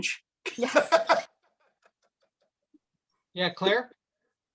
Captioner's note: laughs